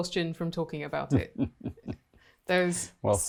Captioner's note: chuckling